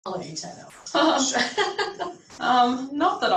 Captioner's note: speaker laughing